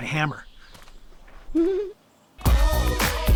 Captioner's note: Sydney giggles